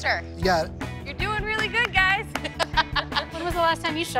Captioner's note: laughs